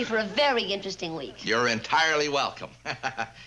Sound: laughs

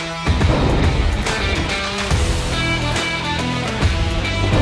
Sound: thunder cracking; thunder cracking

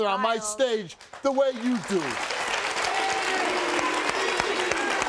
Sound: audience applauding

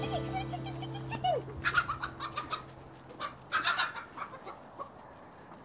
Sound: chicken balking

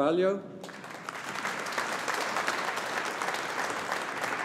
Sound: audience applauding

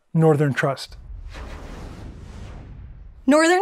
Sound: graphic whooshes

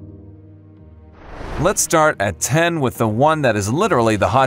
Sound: air whooshing

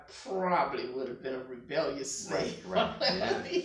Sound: laughing

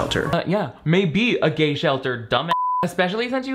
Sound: beep

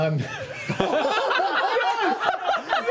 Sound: laughter

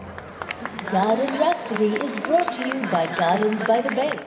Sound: loudspeaker announcement

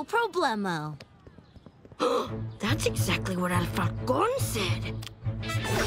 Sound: gasping

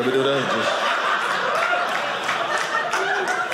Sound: audience laughing

